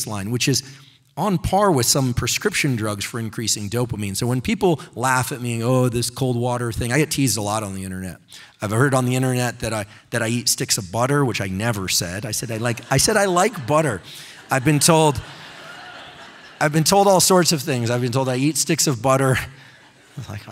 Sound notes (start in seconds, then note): 12.4 audience laughing